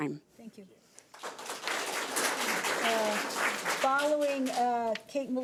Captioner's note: audience applauds